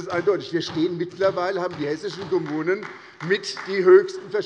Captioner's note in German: Beifall bei der SPD